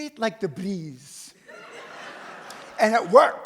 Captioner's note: audience laughs